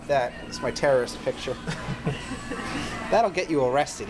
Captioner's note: laugh